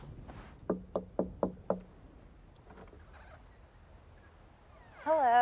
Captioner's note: knocks